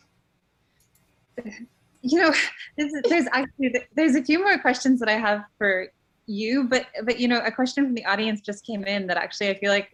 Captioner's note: laughing